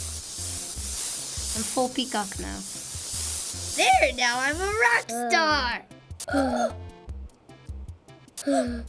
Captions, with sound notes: I'm full peacock now. There, now i'm a rockstar. (Gasping) (Gasping)